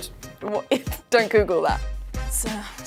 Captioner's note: laughs